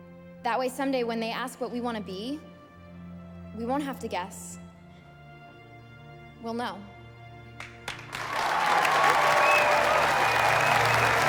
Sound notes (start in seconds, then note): 7.6 all applauding